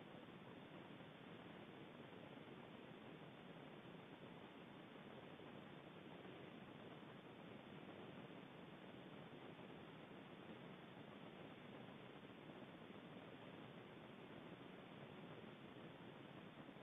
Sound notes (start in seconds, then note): none